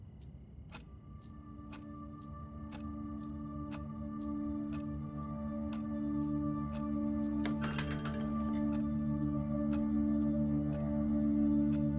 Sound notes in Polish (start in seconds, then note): 1.1 Nastrojowa muzyka; 7.3 dźwięk otwieranych drzwi